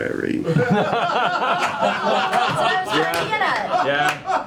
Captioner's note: laughter